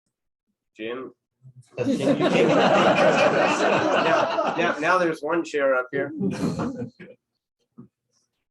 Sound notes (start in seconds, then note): 1.8 laughter